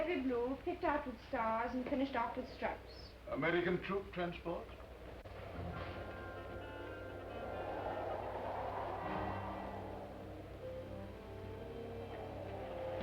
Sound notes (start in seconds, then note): 5.3 wind howling; 5.3 dramatic orchestral music